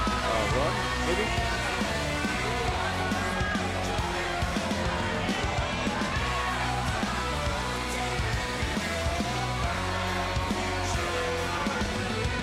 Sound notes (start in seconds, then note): 0.0 crowd chatter; 0.1 crowd cheering